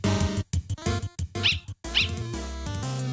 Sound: bark Bark

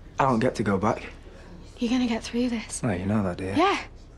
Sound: none

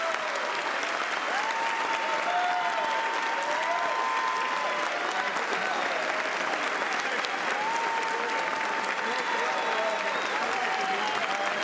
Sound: cheers and applause

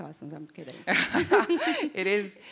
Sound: laughter

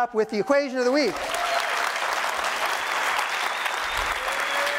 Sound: cheers, applause

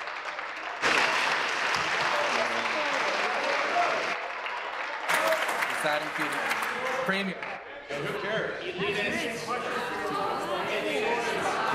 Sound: applause

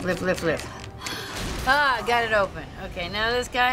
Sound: sighs

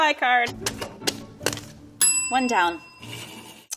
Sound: bell ringing

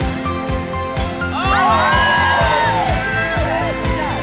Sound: cheering

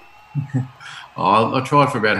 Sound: laughs

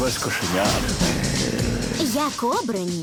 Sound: snarling

